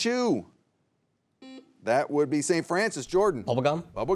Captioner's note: buzzer beeps